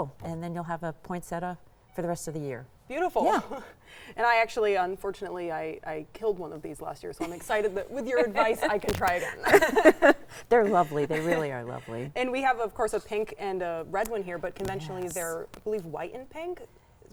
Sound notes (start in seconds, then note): 9.1 laughs